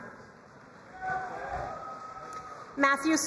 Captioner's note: crowd cheering and applauding